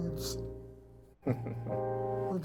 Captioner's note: chuckling